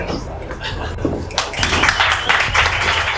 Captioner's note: applause